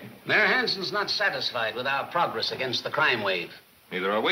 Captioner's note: none